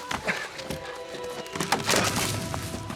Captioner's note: panting; wood cracking